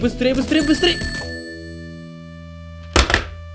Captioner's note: crash; controller drop